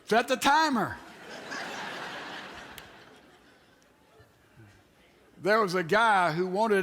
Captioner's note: audience Laughs